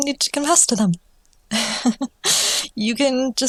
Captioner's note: nervous laughter